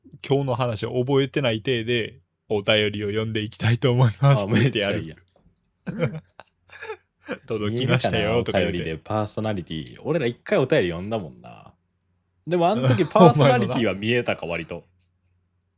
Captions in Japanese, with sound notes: [笑い] 届きましたよ。 おおりでパーソナリティ。俺ら 1回お便り呼んだもんな。 でもあん時パーソナリティは見えたか割と。